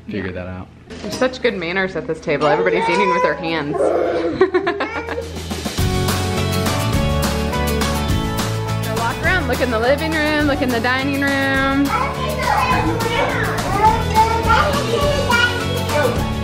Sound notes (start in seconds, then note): 3.5 laughing; 5.8 upbeat music; 11.7 upbeat music